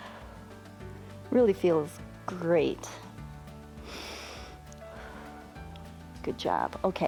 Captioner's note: inhales and exhales